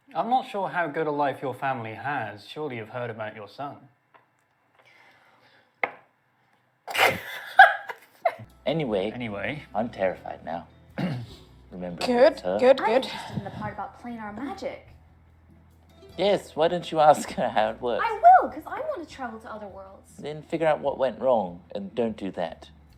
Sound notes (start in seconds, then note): 6.9 bursts into laughter